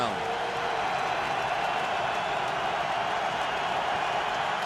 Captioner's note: cheering